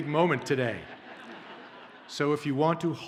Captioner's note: audience laughs